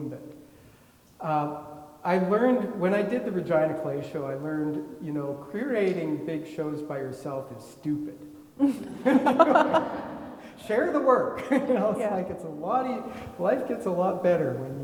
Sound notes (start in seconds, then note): 8.7 everybody laughing